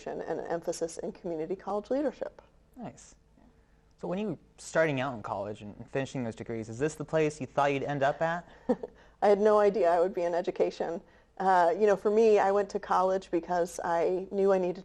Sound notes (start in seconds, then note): 8.5 chuckles